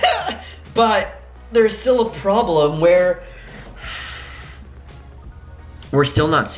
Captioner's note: sigh